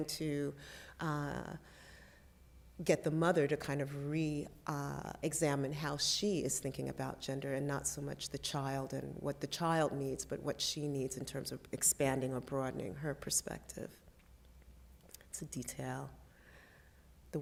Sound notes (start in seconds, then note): none